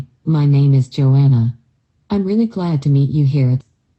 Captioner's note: speaking in American accent